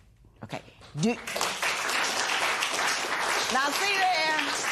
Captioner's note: applause